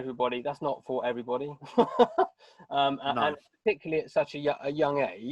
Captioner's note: laughing